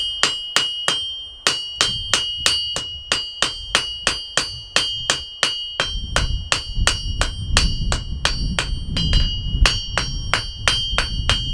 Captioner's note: hammer banging on metal